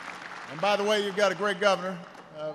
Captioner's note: applause